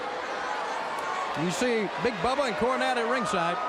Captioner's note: crowd cheering